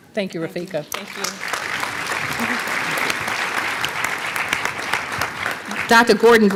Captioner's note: applause